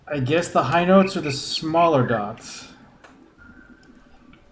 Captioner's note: bird chirps ˧ ˧ ˥ ˧ ˩